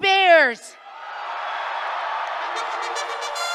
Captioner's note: cheers, applause